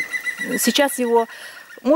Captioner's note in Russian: кричит птица